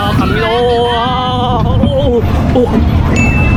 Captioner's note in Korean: 격해지는 비명소리